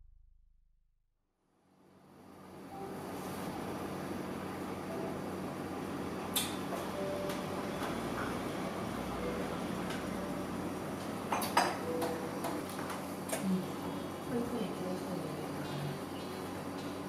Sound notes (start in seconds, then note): 6.0 coffeeshop sounds; 11.8 jazzy music